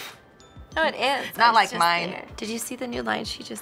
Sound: chuckles

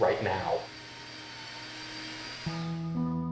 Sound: drilling; soft music

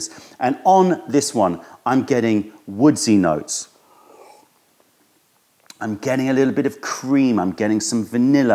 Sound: sips tea

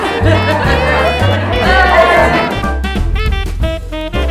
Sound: laughter

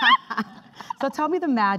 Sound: laughing

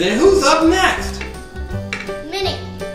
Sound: voiceover

